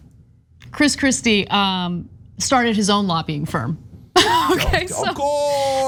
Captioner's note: laugh